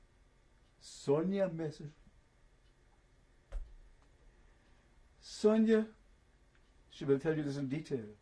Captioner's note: pauses for 3 seconds